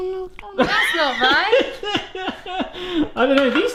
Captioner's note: laughs